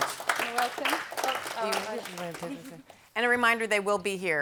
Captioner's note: audience applauds